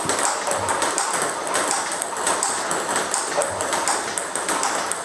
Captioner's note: ball ping pong hitting continues